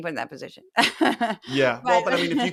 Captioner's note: laugh